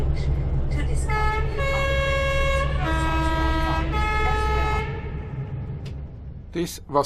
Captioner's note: Post Bus horn